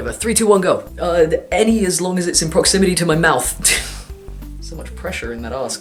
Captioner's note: pff